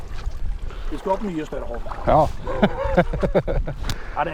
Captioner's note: laughs